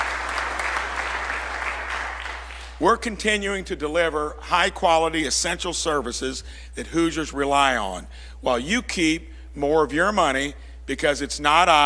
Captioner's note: applause